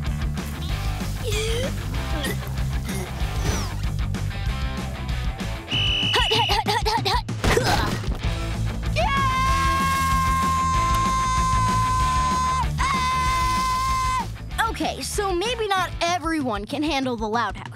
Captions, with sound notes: [gagging] [whistle blowing] Hut, hut, hut, hut, hut! Uh. [screaming] Okay, so maybe not everyone can handle the Loud House.